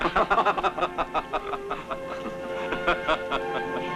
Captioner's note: laughing; grandiose music